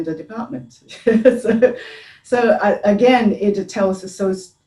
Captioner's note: chuckling